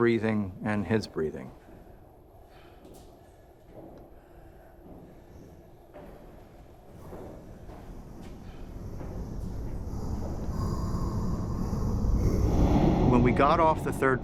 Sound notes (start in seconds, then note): 1.5 light footsteps and breathing